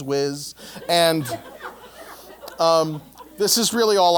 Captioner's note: laugh